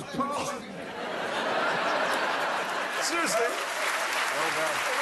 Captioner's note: laughter; applause